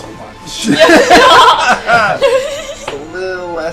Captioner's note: laughter